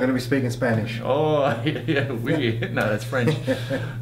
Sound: laughs

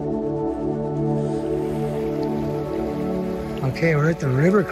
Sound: water bubbling

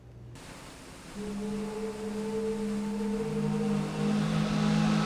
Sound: engines whirring

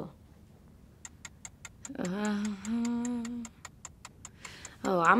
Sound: clock ticking

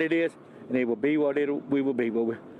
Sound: HABLA EN INGLéS

